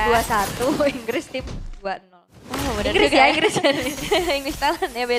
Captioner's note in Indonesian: tertawa